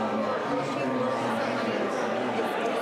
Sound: crowd murmuring

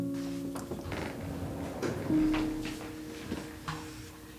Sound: door opening

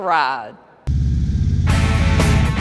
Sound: motorcycle engines roaring; upbeat rock music

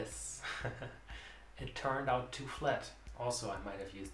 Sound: chuckles

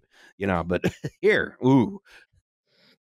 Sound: laughs

